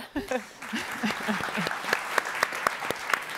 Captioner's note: applauding